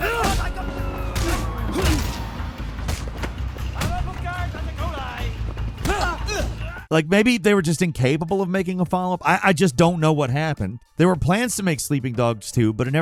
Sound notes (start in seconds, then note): 0.4 tires screeching